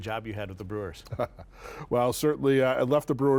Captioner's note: chuckles